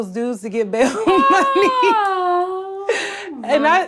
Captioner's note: laughs